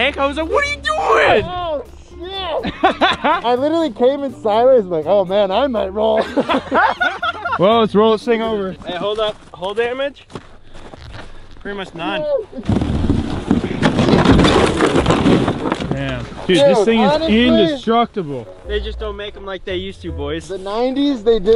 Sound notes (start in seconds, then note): 6.1 laughs